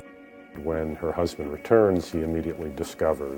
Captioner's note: voiceover